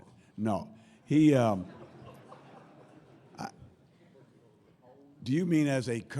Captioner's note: laughter